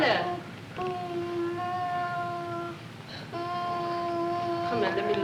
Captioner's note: moaning